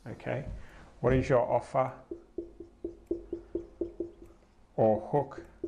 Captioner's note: marker clunking